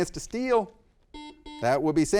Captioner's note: buzzer beeping